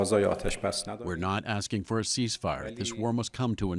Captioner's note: through translator